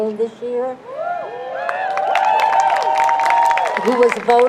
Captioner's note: crowd cheers